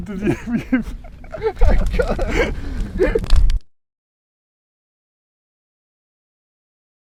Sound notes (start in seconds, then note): 0.0 laughs; 1.5 group laughing; 1.5 fire crackling